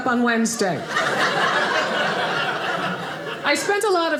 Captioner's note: audience laughing